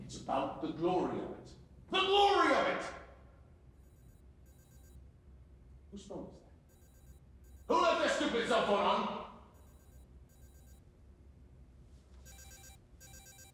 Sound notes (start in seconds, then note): 4.4 phone ringing